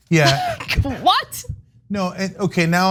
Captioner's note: laugh